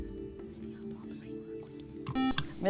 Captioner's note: whispering; buzzer